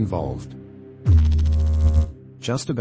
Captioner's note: electrical noise